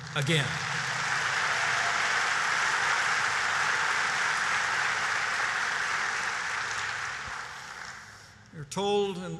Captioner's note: applause